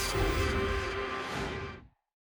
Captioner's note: whoosh